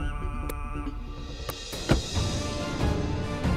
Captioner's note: Car trunk closing